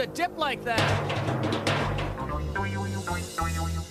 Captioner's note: clunking